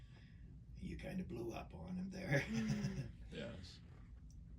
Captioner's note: laughs